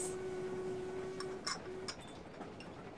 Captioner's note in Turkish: Fincan sesi